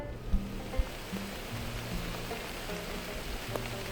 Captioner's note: heavy rain